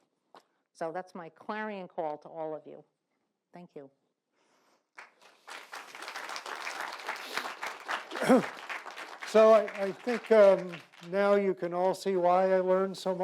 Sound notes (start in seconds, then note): 4.9 audience claps